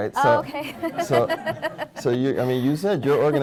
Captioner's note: laughs